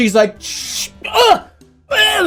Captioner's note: sprays